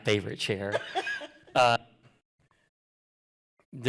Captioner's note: laughter